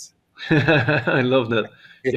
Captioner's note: laughs